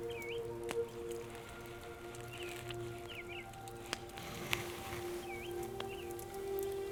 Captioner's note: soft music; birds chirping